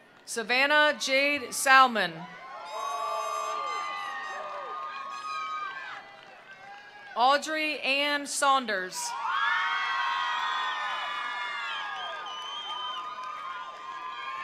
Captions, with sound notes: Savannah Jade Salman. (attendees applauding) (attendees cheering) Audrey Ann Saunders. (attendees applauding) (attendees cheering)